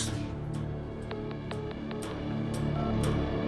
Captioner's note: dial tone